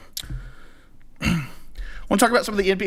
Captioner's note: clears throat